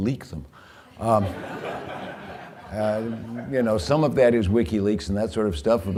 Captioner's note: laughter